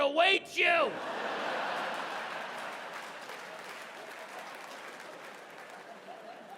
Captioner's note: audience laughing and clapping